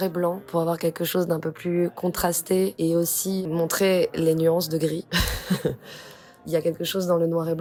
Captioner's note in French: rires